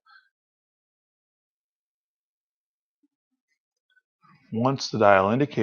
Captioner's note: silence